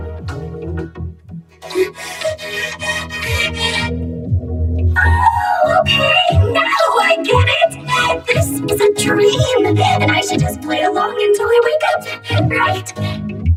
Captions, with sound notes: -[panting] Ohhhh, okay! Now I get it! This is a dream, and I should just play along until I wake up, right?